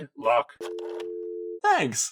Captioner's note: dial tone